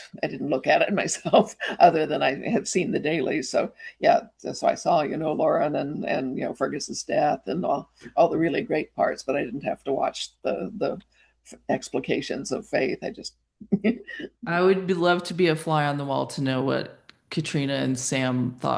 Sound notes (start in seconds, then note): 13.6 chuckles